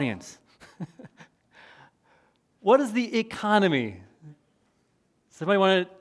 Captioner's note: chuckles